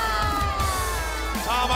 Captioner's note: crowd cheering